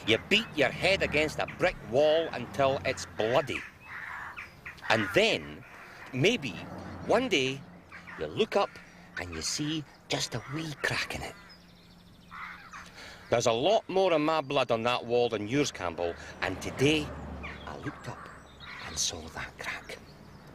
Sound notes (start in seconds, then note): none